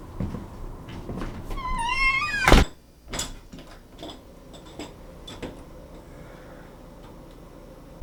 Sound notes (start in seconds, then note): 1.2 door opens; 1.3 door closes